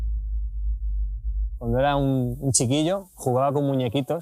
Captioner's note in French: en espagnol